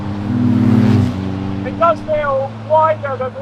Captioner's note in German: Motor heult auf